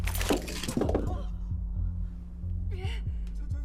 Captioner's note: Uijoo and Yongnam's surprised breaths